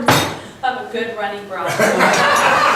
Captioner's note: bangs table